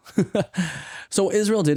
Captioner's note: laughs